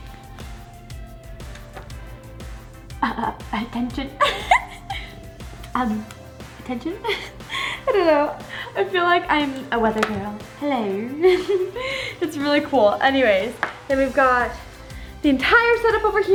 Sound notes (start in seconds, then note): 2.9 giggles; 2.9 clears throat; 10.8 in a funny voice